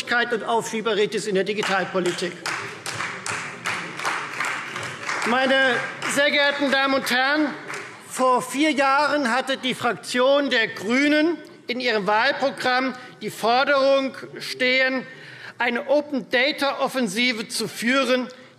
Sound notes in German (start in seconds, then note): 1.6 Beifall Freie Demokraten